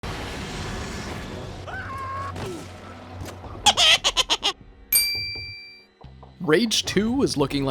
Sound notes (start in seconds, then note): 3.6 intro Laughter; 3.6 screaming Noise